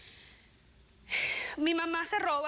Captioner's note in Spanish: exhala